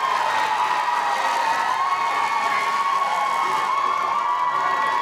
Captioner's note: audience applauding; crowd cheering